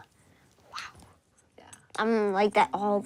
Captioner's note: whispers